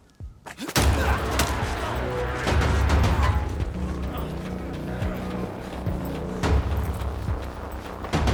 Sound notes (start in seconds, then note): 0.5 grunting